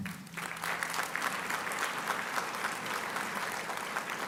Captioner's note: applauding